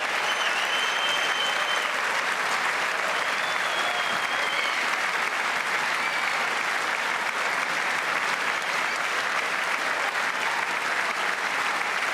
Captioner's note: cheers and applause